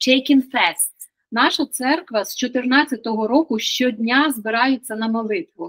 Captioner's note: Ukrainian